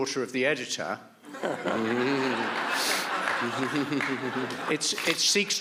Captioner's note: audience laughs